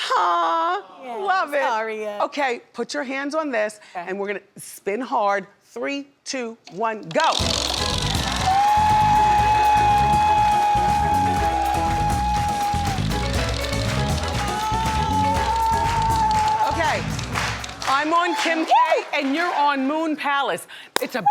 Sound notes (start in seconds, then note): 7.2 wheel clicking; 8.0 cheers; 10.9 upbeat tropical music